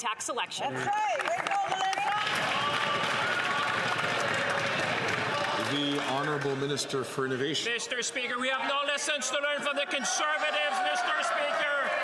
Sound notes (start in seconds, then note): 7.6 some Applause